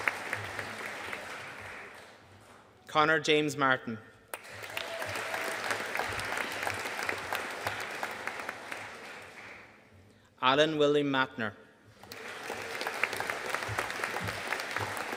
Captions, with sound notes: Connor James Martin. (AUDIENCE APPLAUDING) Alan William Mattner. (AUDIENCE APPLAUDING)